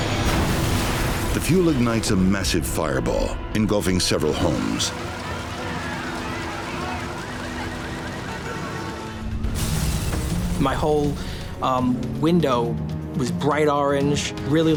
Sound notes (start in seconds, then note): 0.0 aircraft exploding; 4.4 alarms blaring; 4.4 horns honking